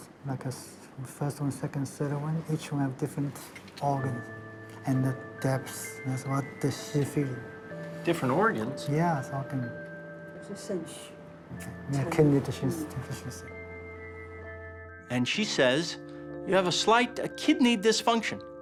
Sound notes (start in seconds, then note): 10.3 speaking Chinese dialect